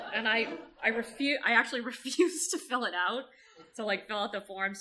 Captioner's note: audience laughter